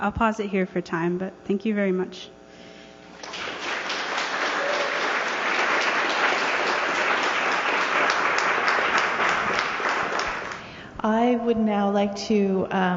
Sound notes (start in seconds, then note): 3.2 applause